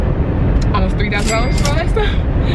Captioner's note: cash register rings